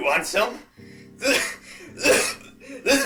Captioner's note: bad coughing